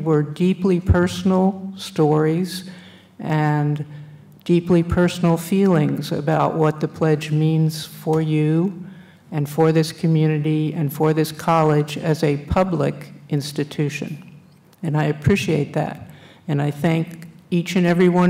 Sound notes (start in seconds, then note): none